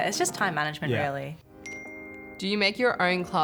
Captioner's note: ping